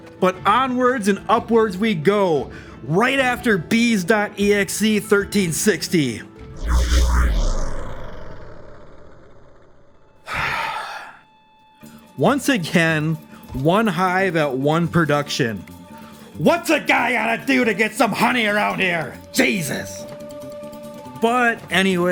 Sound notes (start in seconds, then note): 10.2 sighs